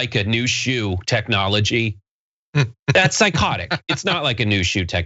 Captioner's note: laugh